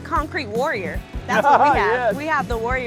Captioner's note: laughs